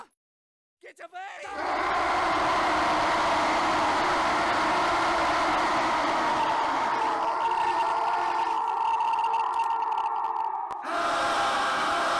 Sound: eternal screams

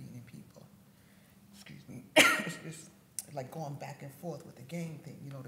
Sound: coughs

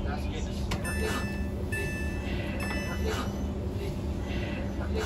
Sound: door Chime

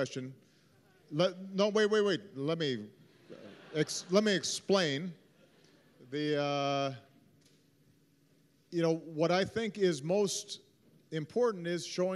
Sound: laughter

